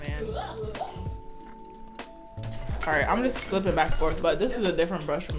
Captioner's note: off screen guffawing